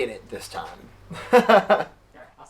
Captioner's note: laughter